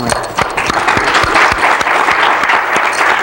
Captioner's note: clapping